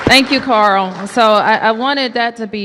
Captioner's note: applause